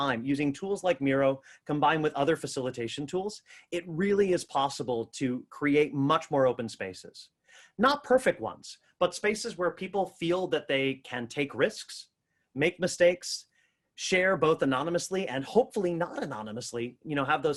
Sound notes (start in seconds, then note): none